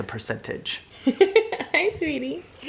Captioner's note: laughing